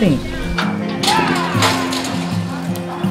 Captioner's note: metal gates bang